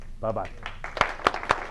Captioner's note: applause